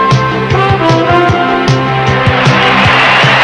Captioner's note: crowd cheering